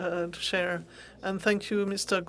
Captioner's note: speaking French